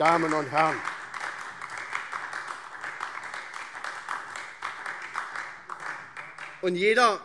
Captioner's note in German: Beifall SPD und DIE LINKE